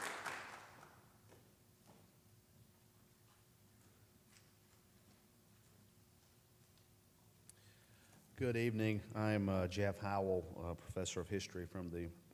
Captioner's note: applause